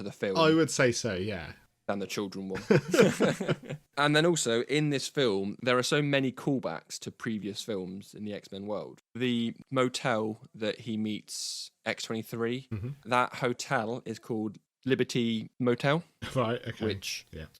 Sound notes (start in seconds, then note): 2.6 laughs